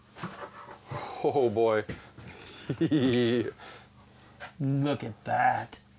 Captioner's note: laughs